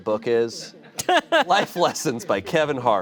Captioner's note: laughs